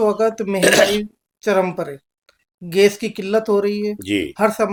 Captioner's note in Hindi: गला साफ़ करने की आवाज़